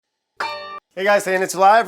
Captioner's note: hood dings